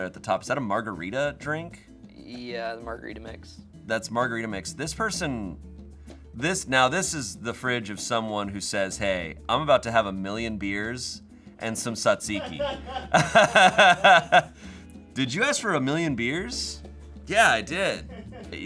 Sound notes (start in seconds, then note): 12.3 laughing